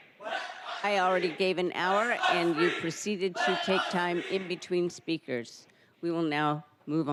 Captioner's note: crowd chanting